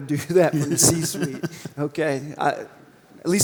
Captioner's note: laugh